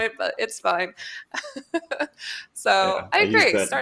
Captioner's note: laughs